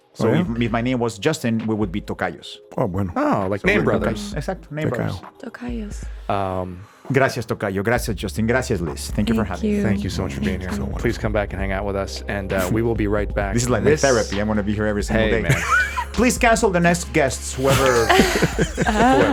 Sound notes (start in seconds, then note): 6.7 Jaime speaking Spanish